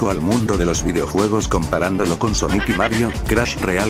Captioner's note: baby parrot laugh